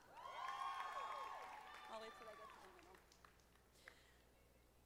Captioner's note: audience applauding